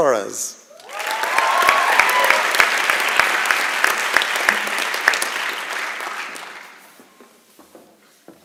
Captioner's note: applause and Cheering